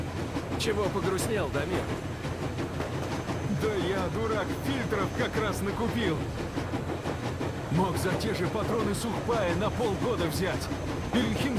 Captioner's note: Train wheel clicks